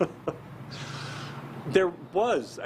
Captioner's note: laughs